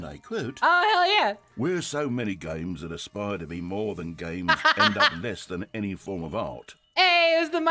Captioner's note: imitating their accent; laughs